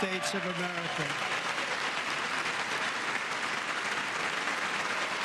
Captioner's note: applause